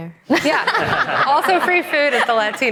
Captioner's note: all laughing